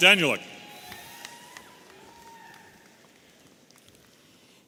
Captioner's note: audience cheering